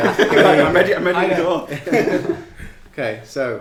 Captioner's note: laughing